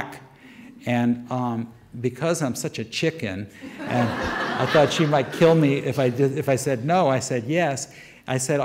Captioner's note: audience laughter